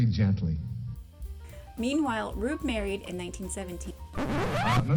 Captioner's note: record scratch